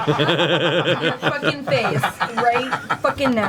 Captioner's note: all laugh